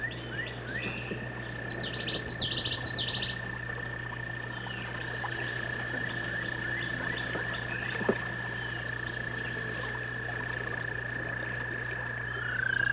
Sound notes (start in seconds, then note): 1.7 birds chirping; 5.8 nature sounds